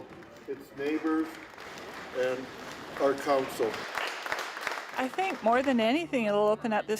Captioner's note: applause